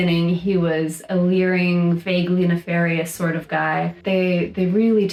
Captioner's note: none